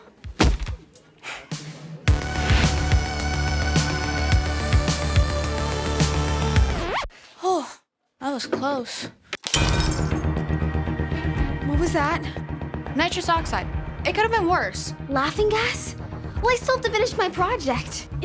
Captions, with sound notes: (upbeat music) - Oh, that was close. (glass shatters) - What was that? - Nitrous oxide. It could have been worse. - Laughing gas? Well I still have to finish my project.